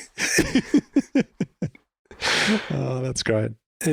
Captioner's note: all laughing